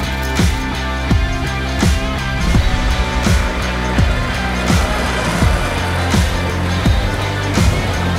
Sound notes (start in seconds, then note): 3.6 truck Engine Passing